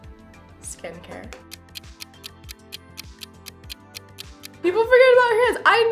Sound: clock ticking

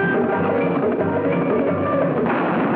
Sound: gun shot

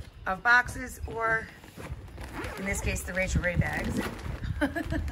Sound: laughs

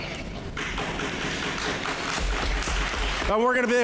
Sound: applause

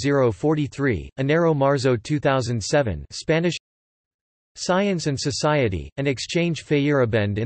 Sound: Spanish

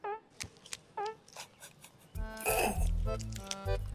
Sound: sniggering

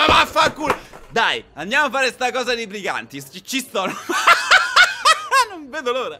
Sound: laughters

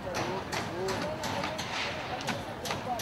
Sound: hammering noise continues

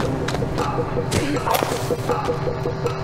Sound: footsteps; loud thud; match strike

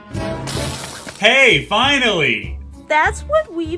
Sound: grill sizzling

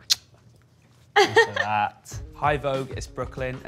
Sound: Nicola laughs

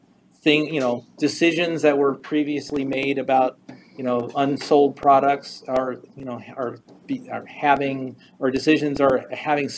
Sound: stutters

